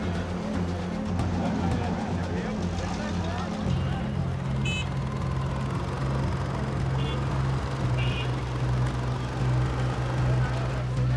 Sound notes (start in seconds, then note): 3.7 horns honking